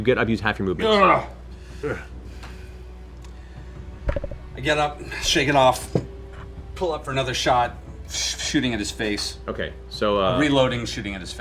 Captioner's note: grunts